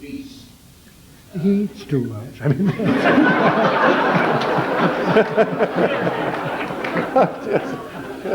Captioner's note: interrupted by general laughter